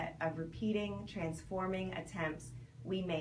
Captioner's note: none